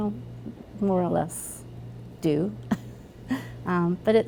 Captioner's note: chuckles